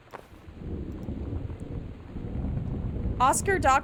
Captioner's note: loud Thunder